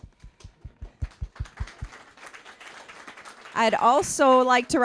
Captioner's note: applause